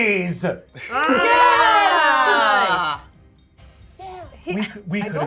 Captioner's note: everyone cheering